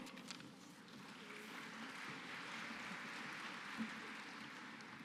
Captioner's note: applause